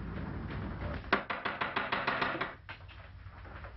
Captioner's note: knocking at the door